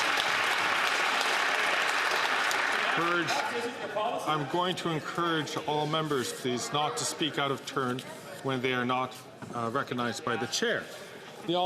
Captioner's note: some Applause